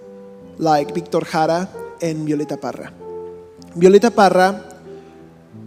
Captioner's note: speaking in a foreign language